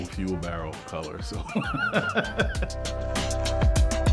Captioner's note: laughs; upbeat music